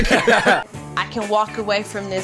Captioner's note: laughing